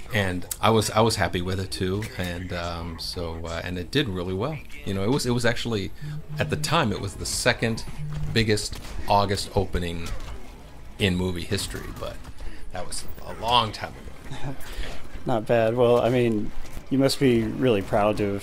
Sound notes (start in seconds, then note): 14.2 laughs